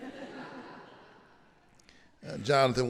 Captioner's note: audience laughing